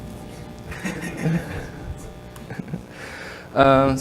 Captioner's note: laughs